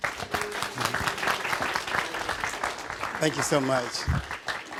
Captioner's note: audience applauding